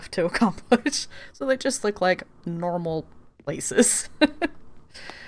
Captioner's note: laughs